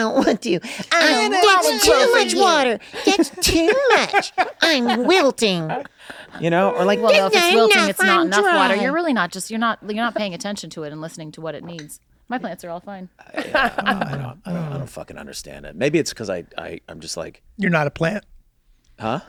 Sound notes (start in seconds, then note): 4.6 Charlie laughs; 13.3 laughs